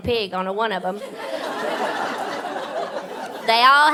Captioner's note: audience laughing